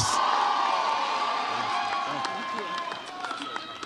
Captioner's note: audience cheers